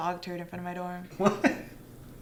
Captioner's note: laughs